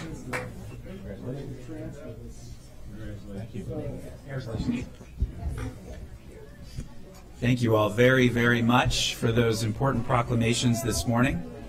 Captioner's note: clapping